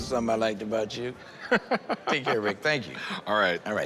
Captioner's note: laughs